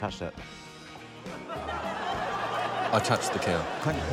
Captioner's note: laughter